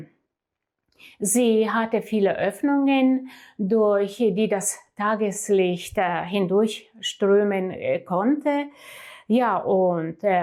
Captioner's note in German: japst